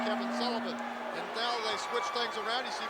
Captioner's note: bell ringing